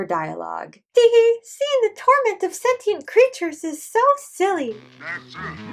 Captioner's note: rhya mimicking nonnie